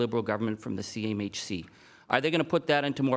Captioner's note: none